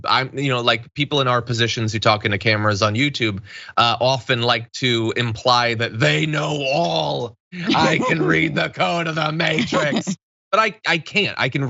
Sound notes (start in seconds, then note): 7.5 laugh